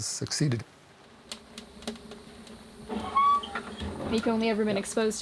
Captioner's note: gas hissing